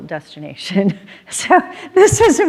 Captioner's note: laughs